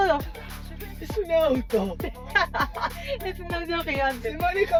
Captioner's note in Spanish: risas